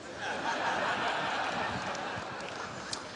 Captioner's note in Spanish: Risas